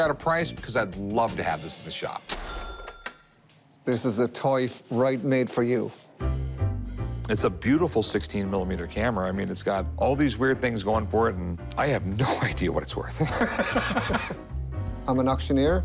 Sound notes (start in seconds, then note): 13.2 laughter